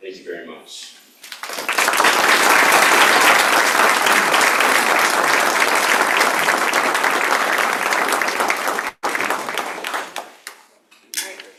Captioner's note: applause